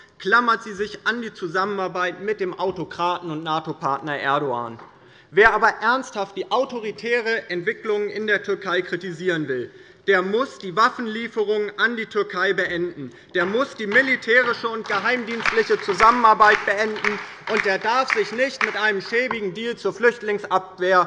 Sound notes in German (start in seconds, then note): 13.4 Beifall bei der LINKEN